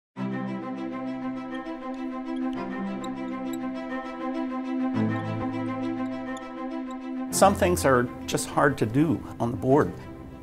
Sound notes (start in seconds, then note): 0.8 gentle music; 1.8 marker squeaks